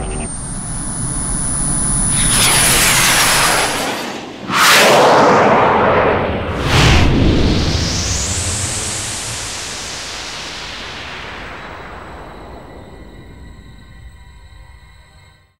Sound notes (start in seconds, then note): 2.3 rocket engine like noises flying